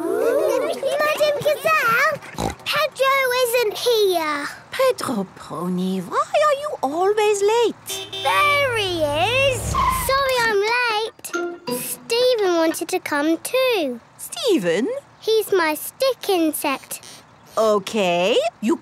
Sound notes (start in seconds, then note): 2.1 snort; 7.8 honking